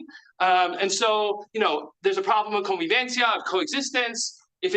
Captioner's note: speaks in Spanish